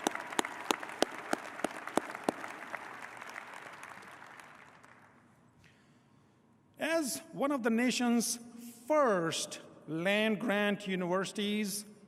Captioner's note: applause